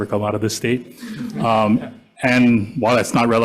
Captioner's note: members laughs